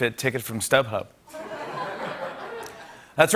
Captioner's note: laughter